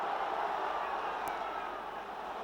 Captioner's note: Applauso